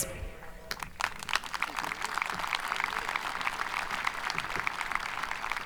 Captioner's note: audience applauding